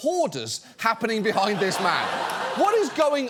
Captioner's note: audience laughs